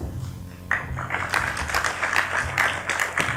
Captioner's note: applause